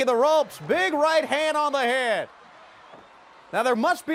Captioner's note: crowd cheering